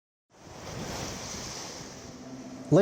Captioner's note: waves lapping; soft music